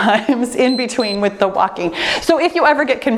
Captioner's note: timer beeps